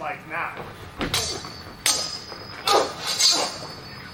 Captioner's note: swords clash